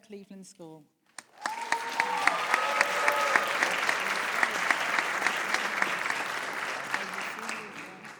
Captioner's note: applause